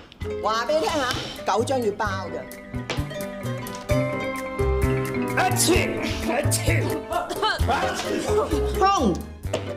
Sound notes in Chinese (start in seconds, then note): 5.5 假噴嚏聲